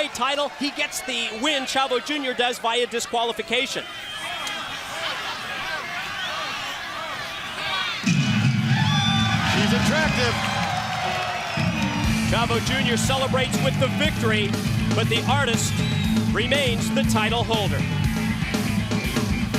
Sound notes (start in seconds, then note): 3.5 crowd chatter